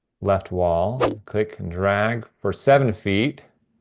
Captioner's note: image whooshing